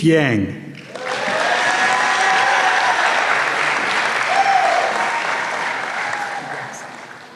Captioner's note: applause